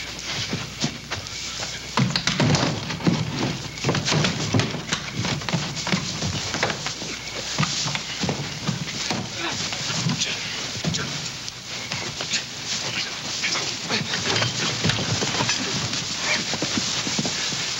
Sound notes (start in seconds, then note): 5.4 men scuffling